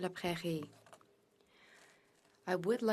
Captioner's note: speaking french